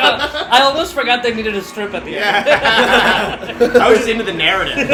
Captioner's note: laughter; laughter